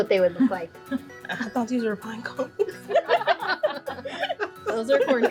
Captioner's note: all laugh